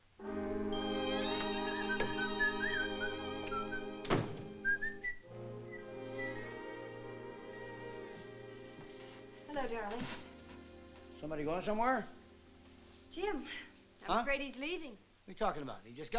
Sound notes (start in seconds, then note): 1.0 whistling